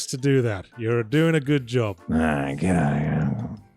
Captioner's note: grumbles